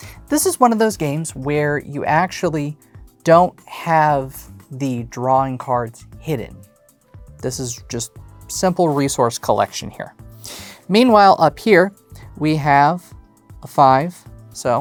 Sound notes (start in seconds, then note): none